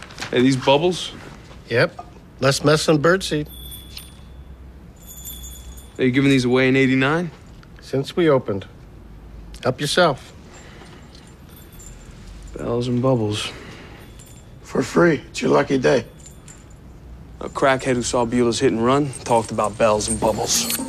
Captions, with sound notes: Hey, these bubbles? Yep. Less mess than birdseed. [bells jingling] Were you givin' these away in '89? Since we opened. Help yourself. Bells and bubbles. For free. It's your lucky day. A crackhead who saw Buella's hit-and-run talked about bells and bubbl.